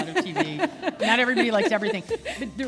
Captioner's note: chuckle